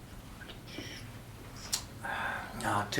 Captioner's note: swallowing